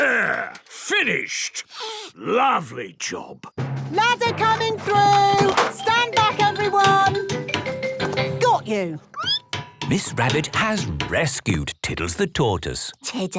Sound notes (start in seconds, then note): 9.1 squeaking